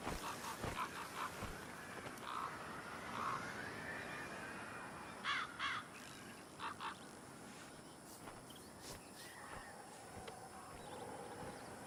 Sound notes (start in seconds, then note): 6.6 bird squawking